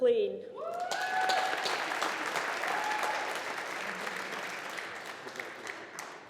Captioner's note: audience applauding